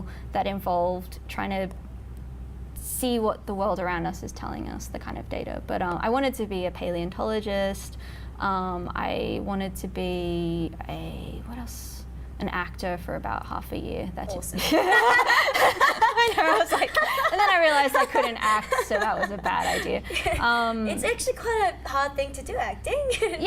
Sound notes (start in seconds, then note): 14.5 both laughing